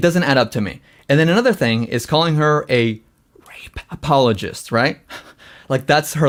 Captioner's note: laughs